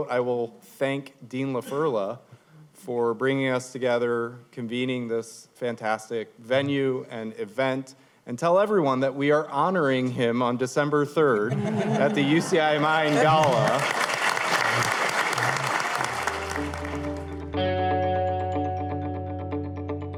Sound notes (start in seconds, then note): 11.4 laughter; 17.6 applause